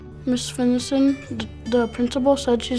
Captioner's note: none